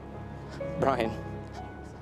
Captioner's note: voice breaks